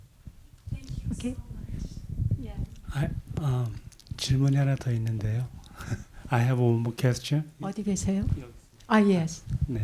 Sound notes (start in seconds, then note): 3.8 audience member speaking in Korean